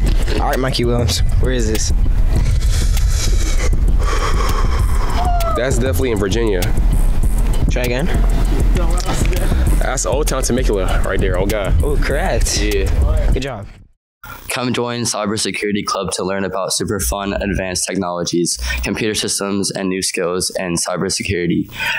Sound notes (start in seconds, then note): 2.3 breathing and sighing